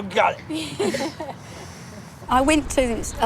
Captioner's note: laughs